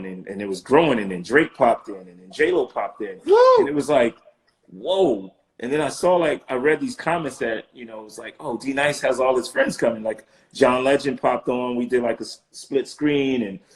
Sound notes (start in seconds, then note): 3.0 hooting